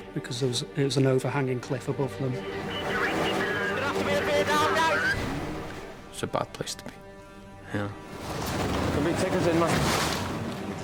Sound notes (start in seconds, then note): 2.7 radio vocalizing; 8.0 waves crashing; 8.1 water whooshing